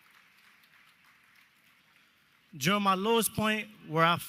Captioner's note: applause